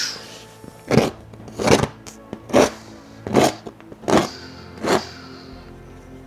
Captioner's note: imitates gun shooting